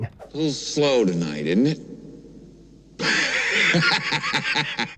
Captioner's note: laughs